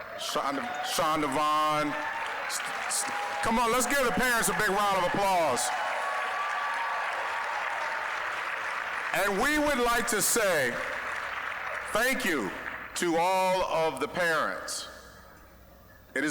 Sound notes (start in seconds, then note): 2.6 applause; 5.8 applause, cheering